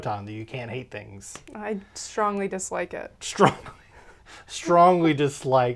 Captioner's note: laughs